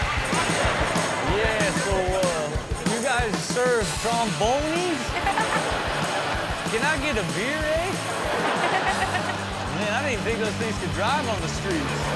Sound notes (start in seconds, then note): 0.9 audience laughs; 5.6 audience laughs; 8.6 audience laughs